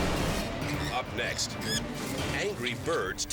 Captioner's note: dramatic music; bird squawks